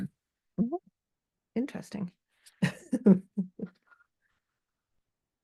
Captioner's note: laughs